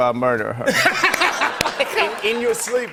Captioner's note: laughter